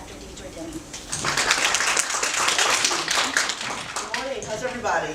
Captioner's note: applause